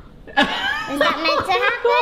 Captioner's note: laughs